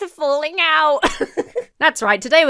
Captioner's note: laughs